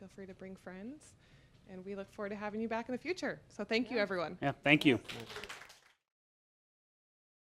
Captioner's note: applause